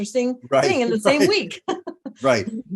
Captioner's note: laughs